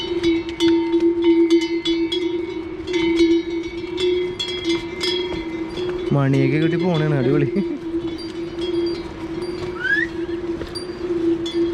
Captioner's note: cow bells